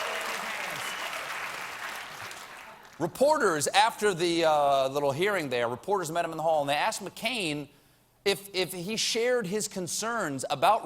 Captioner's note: applause